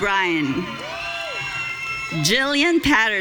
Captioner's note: audience cheering